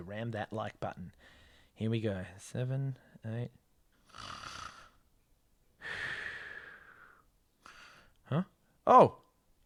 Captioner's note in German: schnarcht